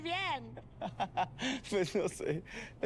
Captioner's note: ríe